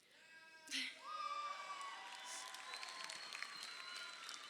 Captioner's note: crowd cheering